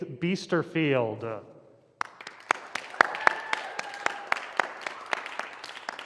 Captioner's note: applause